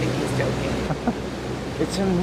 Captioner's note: laughter